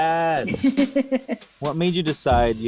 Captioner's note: laughing